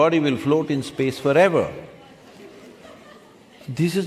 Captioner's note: few laugh